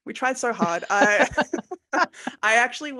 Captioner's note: laughing